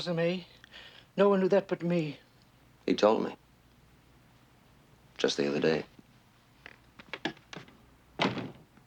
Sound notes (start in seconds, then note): 8.2 door closing